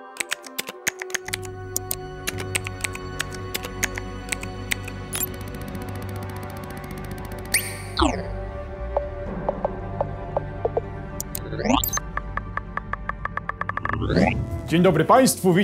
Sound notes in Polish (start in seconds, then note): 0.0 dźwięk wklepywania z klawiatury; 8.9 dźwięk przeskakiwania po katalogach